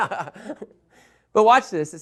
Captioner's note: laughter